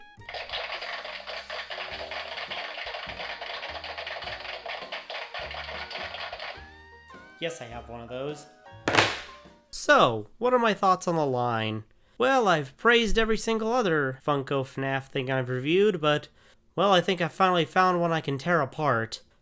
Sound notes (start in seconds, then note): 0.2 round of applause from my sound machine; 8.9 thunk